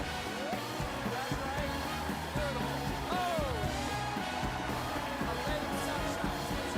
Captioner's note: cheers and applause